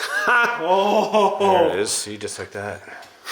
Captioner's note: laughing